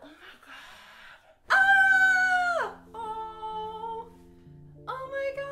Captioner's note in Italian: urlo di gioia